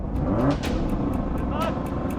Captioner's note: car revs